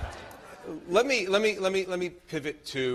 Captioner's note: laughter